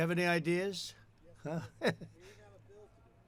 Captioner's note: laughs